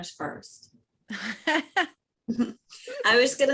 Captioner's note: laughs